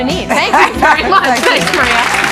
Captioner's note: Sally laughing